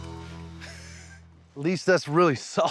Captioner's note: laughs